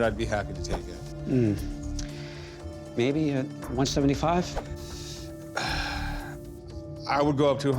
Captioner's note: sighs